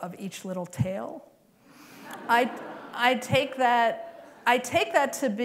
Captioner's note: laughter